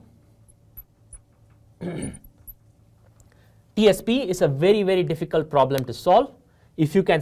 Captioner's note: cough